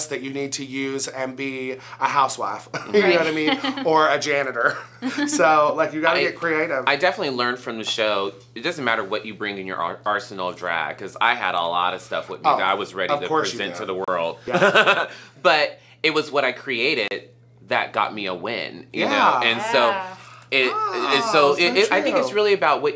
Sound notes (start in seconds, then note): 14.3 laughs